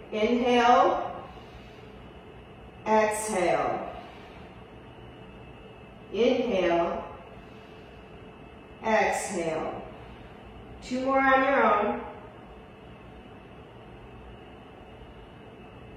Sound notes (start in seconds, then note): 1.8 inhales; 4.2 exhales; 7.2 inhales; 10.1 exhales